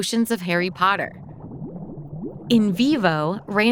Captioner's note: potion burbling